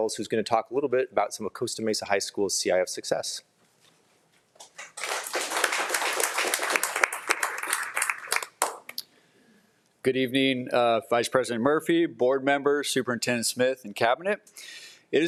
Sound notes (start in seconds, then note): 4.8 audience applauding